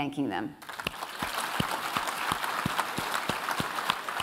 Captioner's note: applause